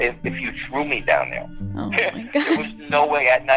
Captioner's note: laughter; laughter